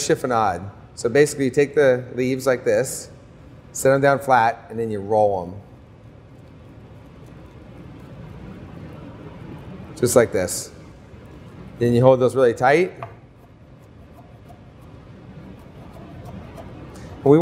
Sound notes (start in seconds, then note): 13.3 slicing